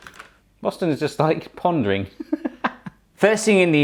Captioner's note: chuckles